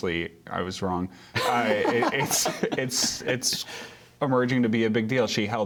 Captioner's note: laughter